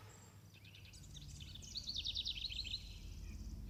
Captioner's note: birds